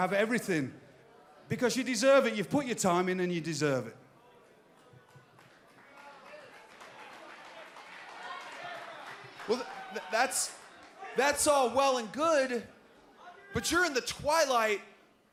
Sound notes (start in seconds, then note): 11.5 crowd cheering